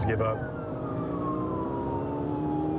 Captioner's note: siren blaring